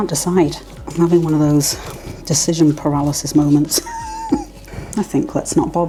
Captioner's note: laugh